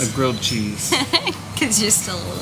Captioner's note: giggling